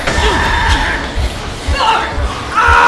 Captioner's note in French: Le monstre pousse un cri aigu; Matt hurle. Chair arrachée; cris de monstres; Matt hurle. Chair arrachée